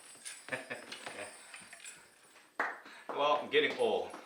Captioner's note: laughs; applause